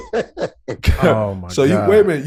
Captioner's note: Rel laughing